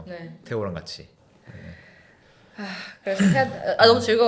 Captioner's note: deep sigh